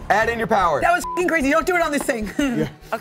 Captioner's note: beep